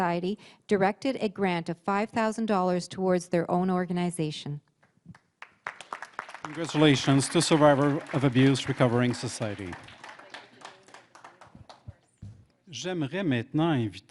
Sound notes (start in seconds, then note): 6.8 applause; 13.8 speaking French